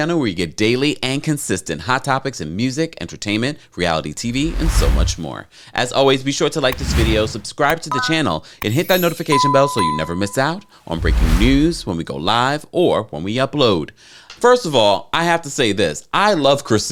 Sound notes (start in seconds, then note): 4.2 graphics whoosh; 6.7 graphics whoosh and click; 8.6 graphics chime; 8.7 bell dinging; 10.8 graphics whoosh